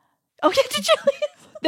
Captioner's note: laughs